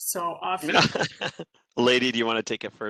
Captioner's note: laughter